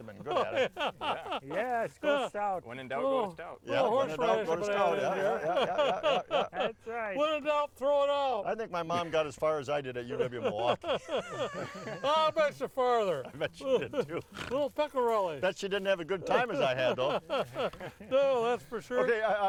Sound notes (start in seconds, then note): 10.0 all laughing; 16.1 all laughing